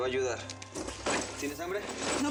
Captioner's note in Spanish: ruido de cadenas